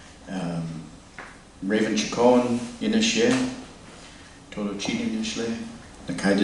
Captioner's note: non-english speech